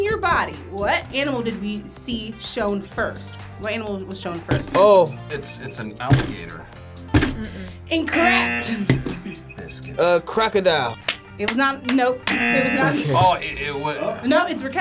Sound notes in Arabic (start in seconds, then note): 10.5 تصفيق